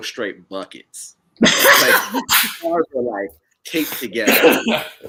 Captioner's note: laughing